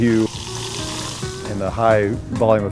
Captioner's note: fizzing